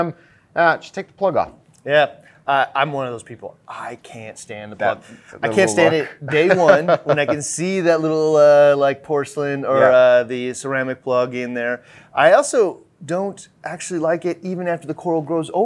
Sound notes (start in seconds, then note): 5.0 laughs